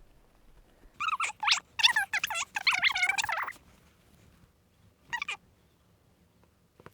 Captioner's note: high-pitched fast forwarded speech